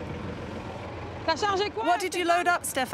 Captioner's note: truck rumbling; speaking in foreign language